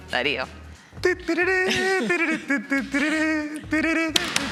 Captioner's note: humming bullfighting music